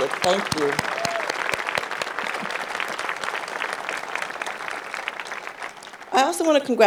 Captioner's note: crowd applauds